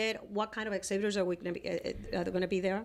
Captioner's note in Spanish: Hablando ingl\s